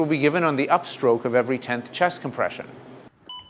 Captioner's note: voiceover